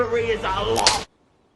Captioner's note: snap